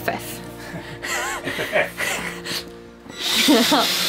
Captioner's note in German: Lacht